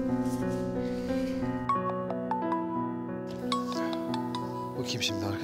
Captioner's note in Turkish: Telefon çalıyor